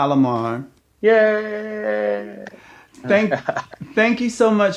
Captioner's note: claps and laughs